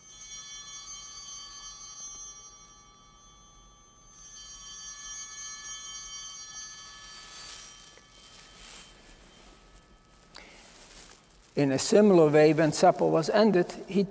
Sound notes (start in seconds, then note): 0.1 bell ringing